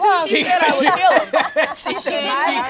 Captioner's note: laughs